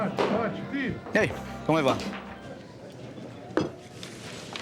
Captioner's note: bartender speaking foreign language; people chattering